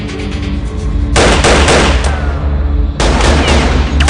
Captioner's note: guns firing